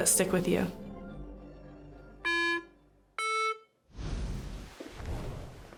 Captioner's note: beeping